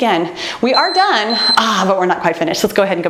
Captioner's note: timer beeps